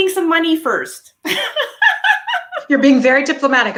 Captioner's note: laughing